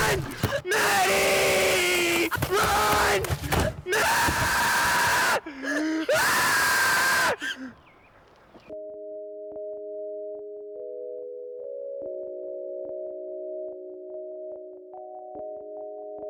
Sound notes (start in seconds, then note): 0.0 man screaming; 5.3 loud screaming; 8.6 soft music playing